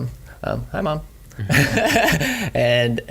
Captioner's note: laughs